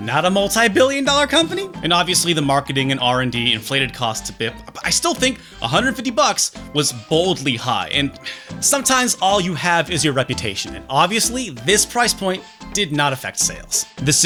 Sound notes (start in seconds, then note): 8.2 sigh